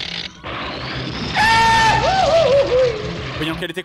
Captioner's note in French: cri de Dingo